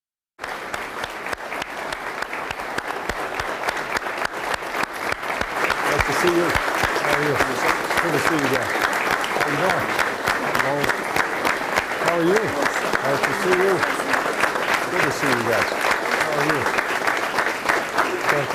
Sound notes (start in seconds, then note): 1.5 applause